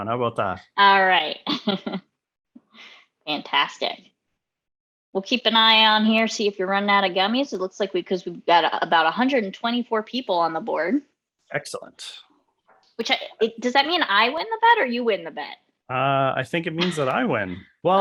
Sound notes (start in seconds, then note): 2.1 laughs softly